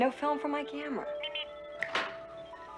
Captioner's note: Steve Trevor snaps his Fingers